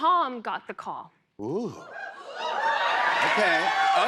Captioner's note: cheering